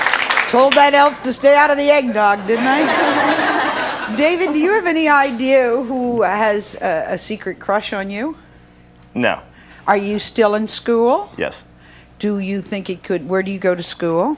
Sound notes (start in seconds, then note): 1.9 audience laughs